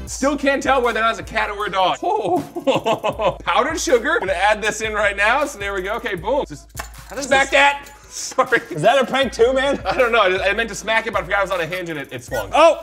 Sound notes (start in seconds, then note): 2.0 chuckles